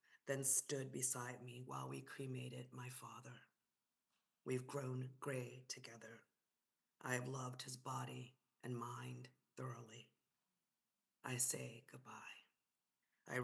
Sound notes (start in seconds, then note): none